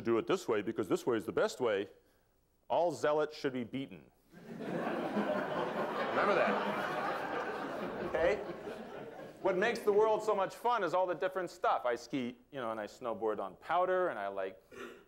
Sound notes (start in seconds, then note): 4.3 laughter